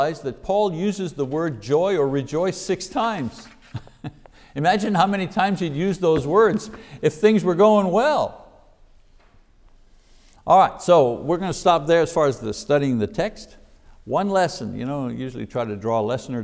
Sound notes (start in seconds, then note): 3.4 chuckles